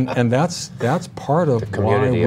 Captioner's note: laughter